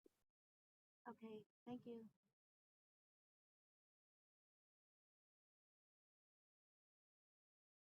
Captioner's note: silence